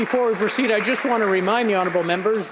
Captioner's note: applause